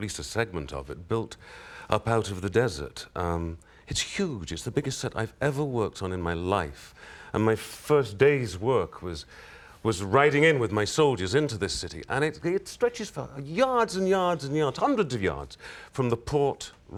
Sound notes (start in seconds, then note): none